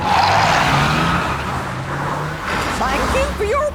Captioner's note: tires screeching